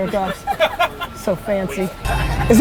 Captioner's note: laughter